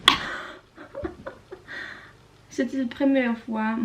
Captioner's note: laughs in pain